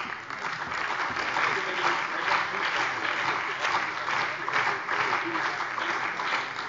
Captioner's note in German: Beifall bei der CDU und dem BÜNDNIS 90/DIE GRÜNEN